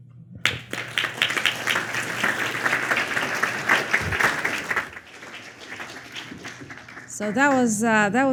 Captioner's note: applause